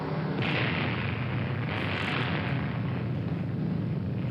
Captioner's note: explosion